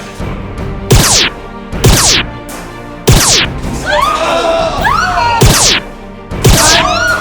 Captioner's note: laser noises and battle noises; screams and laser noises